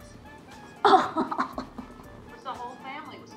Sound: laughs

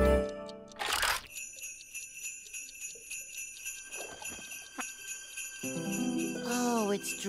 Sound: bells ringing

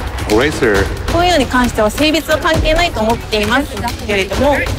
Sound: speaking Japanese

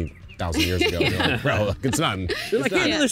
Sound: laughter

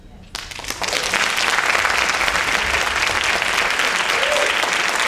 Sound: audience applauding and cheering

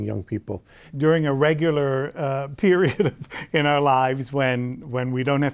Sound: laughs

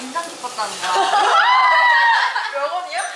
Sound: laughing

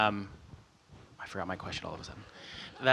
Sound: audience laughts

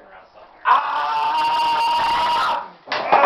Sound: loud scream

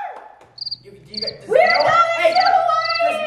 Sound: crickets chirping

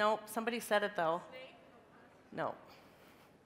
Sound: crowd

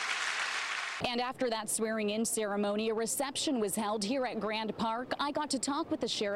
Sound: applause

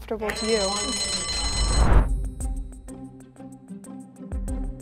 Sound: bell rings; suspenseful music

